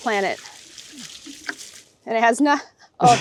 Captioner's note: liquid splashing